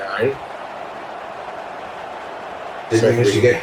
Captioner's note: crowd Noises